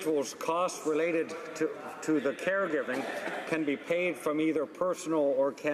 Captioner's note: laughter